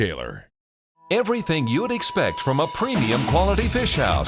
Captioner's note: voiceover